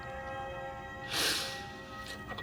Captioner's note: sniffles